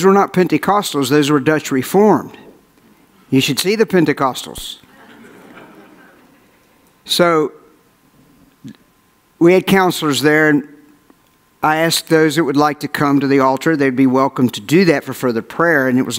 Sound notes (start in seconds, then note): 4.9 audience laughs